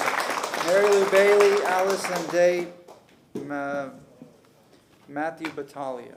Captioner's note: applause